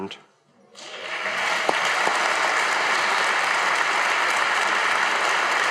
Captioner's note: audience applauding